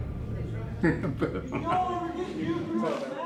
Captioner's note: laughter